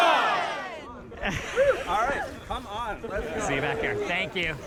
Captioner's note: chatter in the crown